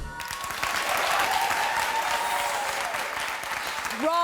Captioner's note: audience applauds